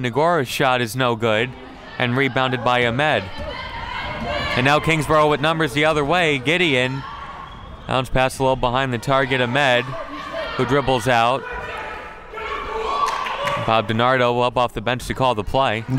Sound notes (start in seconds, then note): 13.0 clapping